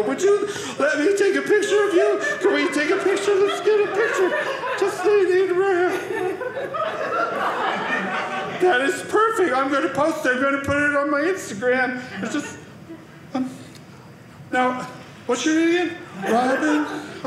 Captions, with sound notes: would you let me take a picture of you? Let me take a picture with you? Get a picture? (audience laughing) That is perfect. I'm going to post-- I'm going to put it on my Instagram. And just-- now what's your name again? Veronica?